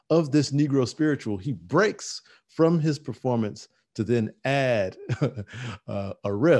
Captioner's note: chuckling